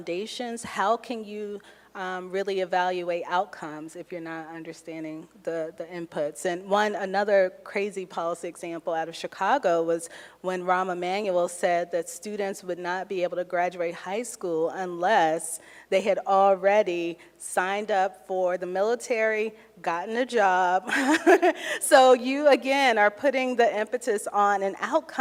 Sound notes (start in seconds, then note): 20.9 laughs